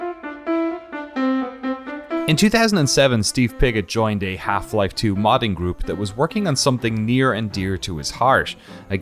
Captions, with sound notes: (SPEAKING NORMALLY) In 2007, Steve Piggott joined a Half-Life 2 modding group that was working on something near and dear to his heart,